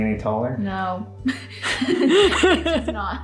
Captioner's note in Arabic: يضحك